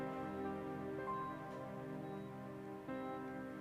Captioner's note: machine beeping